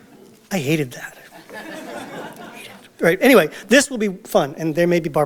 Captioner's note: audience Laughter